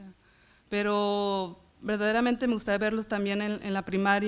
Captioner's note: foreign language